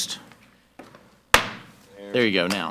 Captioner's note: gavel banging